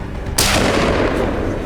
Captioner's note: gunshot